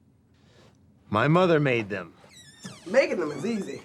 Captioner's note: breath